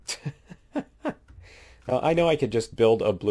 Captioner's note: laughs